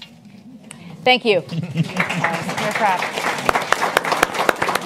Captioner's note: applause